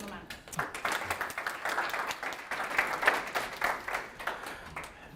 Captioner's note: applaud